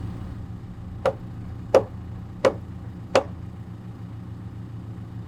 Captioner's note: mallet pounding